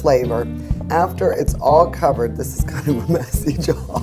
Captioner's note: laughs